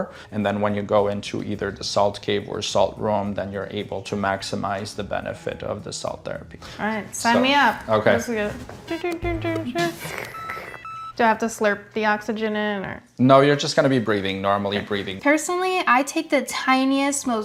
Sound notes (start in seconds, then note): 8.9 slurp; 9.8 vocalizing